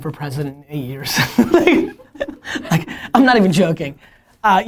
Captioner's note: laughter